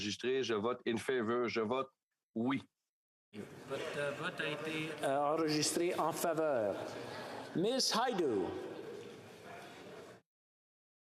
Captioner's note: speaking French